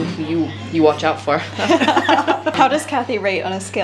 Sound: laughs

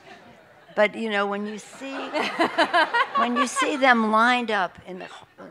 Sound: laughter

